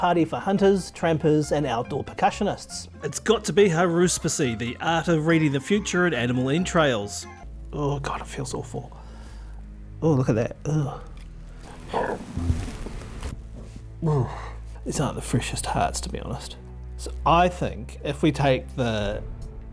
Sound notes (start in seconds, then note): 11.6 presenter stomach gurgles; 13.4 presenter groans